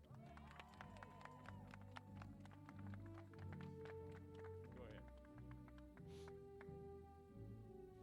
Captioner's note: applause